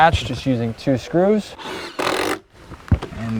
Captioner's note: drill whirring, no additional audio